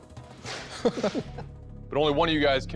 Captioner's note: laughter